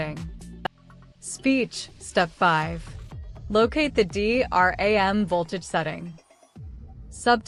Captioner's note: speech